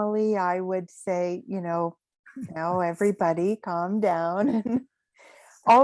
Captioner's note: chuckles